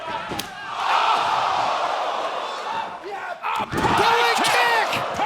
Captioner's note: crowd exclaiming